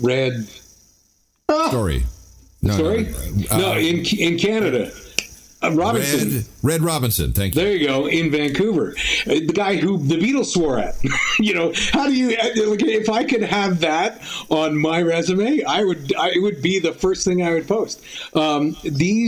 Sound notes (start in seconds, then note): 1.7 electronic interference; 11.0 chuckles